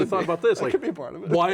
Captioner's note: laughs